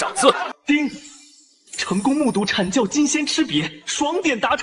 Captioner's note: ding!